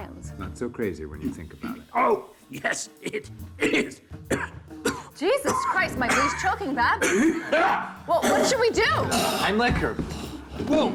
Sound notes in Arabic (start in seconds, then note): 3.0 ماركوس يصفي حلقه; 3.5 سعال